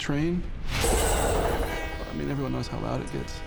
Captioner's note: metal clanging, train horn